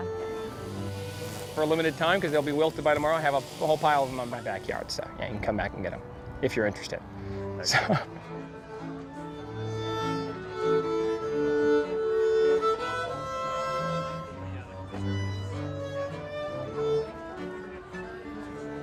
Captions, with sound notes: 'cause I did not know about the London, yeah. - For a limited time 'cause they'll be wilted by tomorrow, I have a whole pile of 'em in my backyard so you can come back and get 'em if you're interested. (laughs) (violin music)